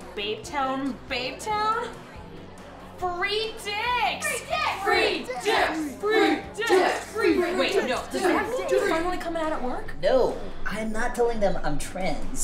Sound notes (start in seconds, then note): 4.1 crowd chanting; 7.5 laughter